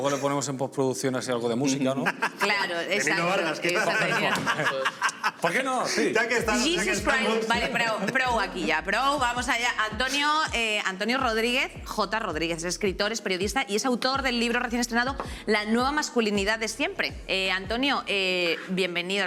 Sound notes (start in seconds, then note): 4.6 laughs